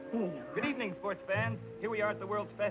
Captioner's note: radio Announcer